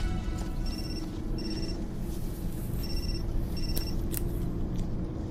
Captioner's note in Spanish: Suena el celular